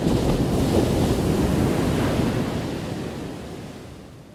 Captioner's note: thunder crashing